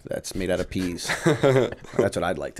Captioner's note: chuckle